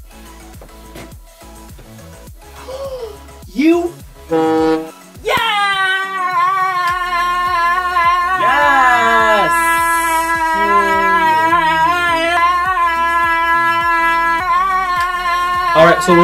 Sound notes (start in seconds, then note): 2.5 gasp; 4.2 honk